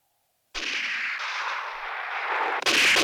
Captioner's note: gunshots